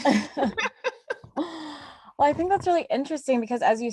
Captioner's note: laugh